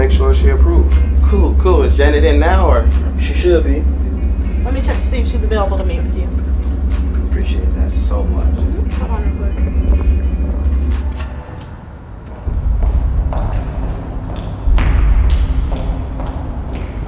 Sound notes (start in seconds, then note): 12.4 footsteps thudding